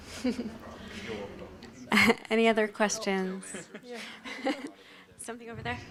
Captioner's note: chuckles